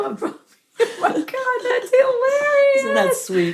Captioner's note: both laugh